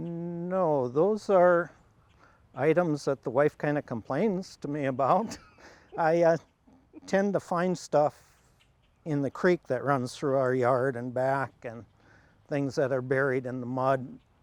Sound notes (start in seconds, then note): 5.2 laughs